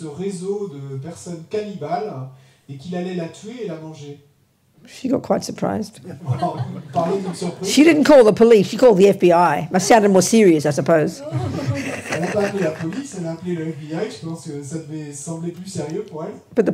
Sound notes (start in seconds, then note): 6.1 laughter; 11.2 laughter